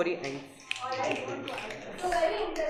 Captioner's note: students snapping